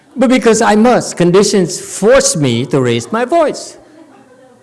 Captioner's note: audience laughs